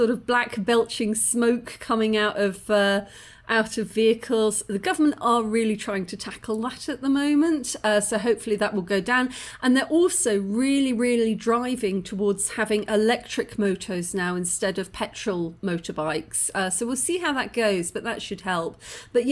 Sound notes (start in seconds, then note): none